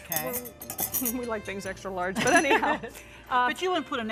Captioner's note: both laughing